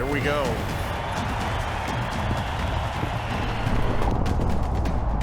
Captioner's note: crowd cheering